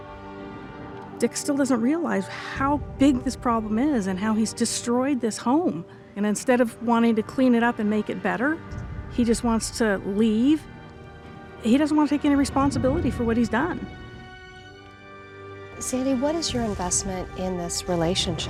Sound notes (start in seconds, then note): none